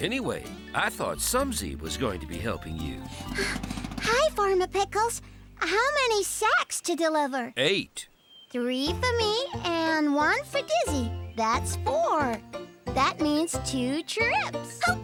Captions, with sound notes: ANYWAY, I THOUGH SUMSY WAS GOING TO BE HELPING YOU. ( Panting ) HI, FARMER PICKLES. HOW MANY SACKS TO DELIVER? EIGHT. THREE FOR ME AND ONE FOR DIZZY. THAT'S FOUR. THAT MEANS TWO TRIPS.